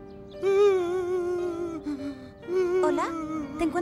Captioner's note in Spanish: Calcetín con Rombos Man rompe en llanto